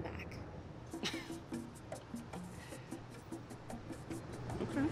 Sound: chuckles

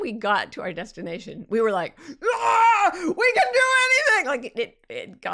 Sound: yells

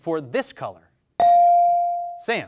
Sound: bell dings

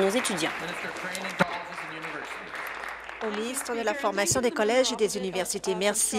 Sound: applause

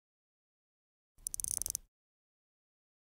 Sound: sound of clock ticker

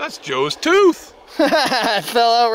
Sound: laughing

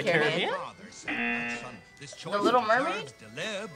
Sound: buzzer

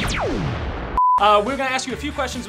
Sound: zapping noise

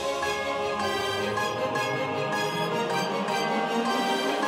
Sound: heavenly noises

